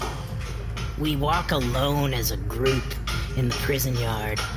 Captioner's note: whispering